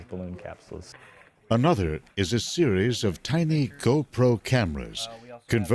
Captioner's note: voiceover